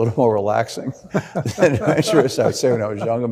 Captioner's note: both laughing